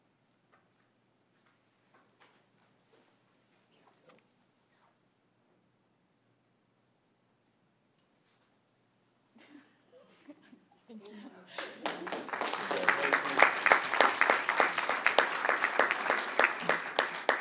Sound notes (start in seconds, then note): 7.9 applause